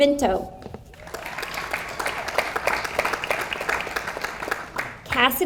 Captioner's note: audience applauds